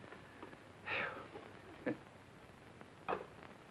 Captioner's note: Red chuckling